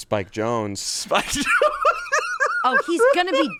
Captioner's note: laughs